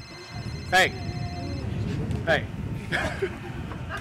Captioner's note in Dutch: mobiele telefoon rinkelt